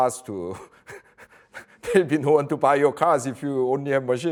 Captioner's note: laughs softly